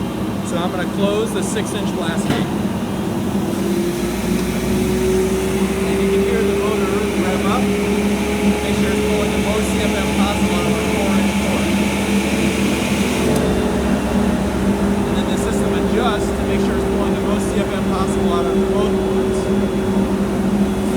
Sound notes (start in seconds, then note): 3.4 system whirs faster